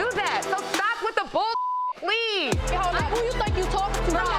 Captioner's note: beeps